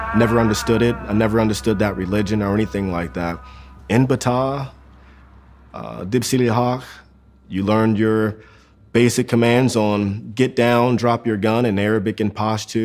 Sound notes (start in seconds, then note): 4.0 speaking in Arabic